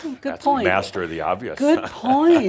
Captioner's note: Adamus chuckles